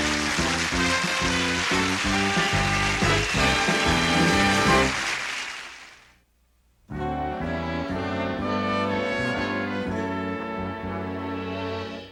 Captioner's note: applause